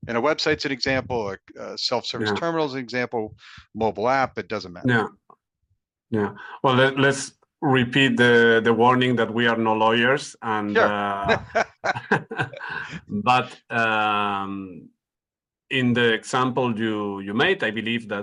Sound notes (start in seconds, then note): 10.8 laughing